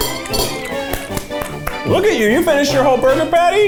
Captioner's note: claps